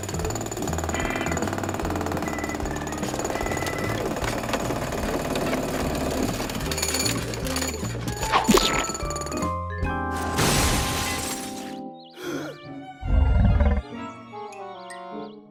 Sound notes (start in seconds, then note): 7.7 splat; 10.2 crash; 12.2 wheezes; 13.0 tummy grumbling